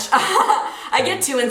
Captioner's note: chuckles